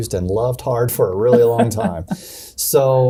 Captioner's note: chuckling